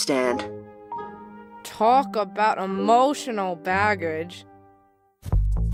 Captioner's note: mumbling